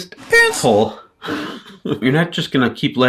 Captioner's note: chuckles